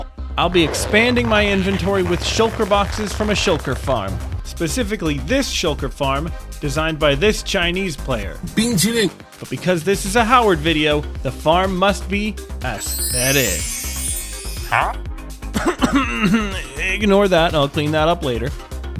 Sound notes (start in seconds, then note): 15.6 cough cough